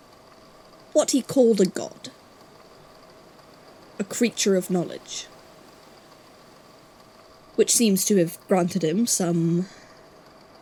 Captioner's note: faint static